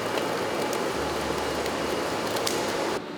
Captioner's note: flapping